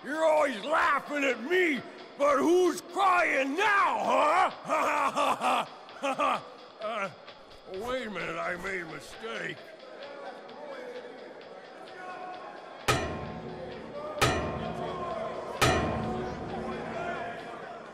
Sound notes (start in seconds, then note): 4.6 Rhino laughs for a brief moment